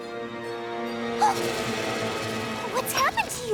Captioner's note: gasps